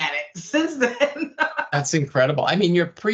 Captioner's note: laughing